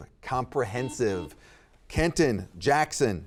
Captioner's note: buzzer beeping